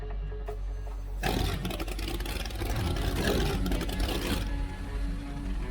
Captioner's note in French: le moteur du bateau rugit; musique tendue et pleine de suspense